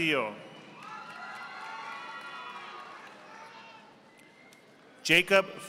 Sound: audience applauding

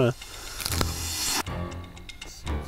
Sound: crunching; dramatic music

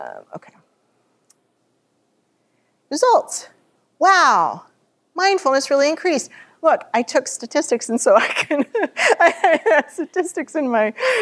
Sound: laughter

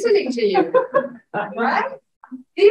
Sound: audience laughing

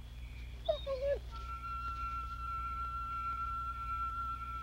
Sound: whimpering

